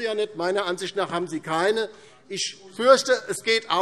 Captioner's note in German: none